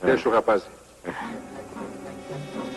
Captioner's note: grunts